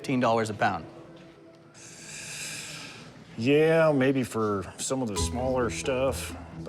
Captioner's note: inhales